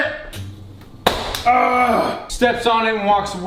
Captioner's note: ahh